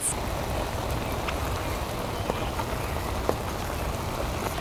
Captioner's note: food sizzling